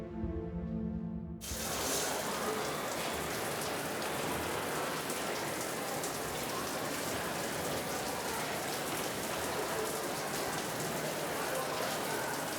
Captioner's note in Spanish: ruido de las duchas